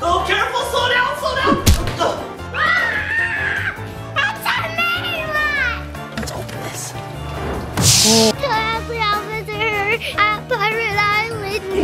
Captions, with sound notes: Oh, careful! Slow down! Slow down! (child thuds) (screaming) - It's a mean one. - Let's open this. - Tell Adley I'll visit her at pirate island.